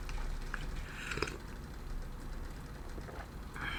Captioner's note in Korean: 콧방귀